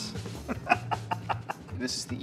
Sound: laughs

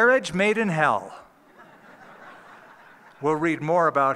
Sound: laughter

